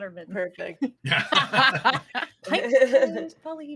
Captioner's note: group laughing